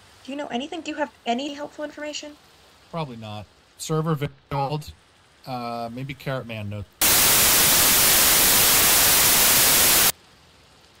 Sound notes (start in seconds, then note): 7.0 static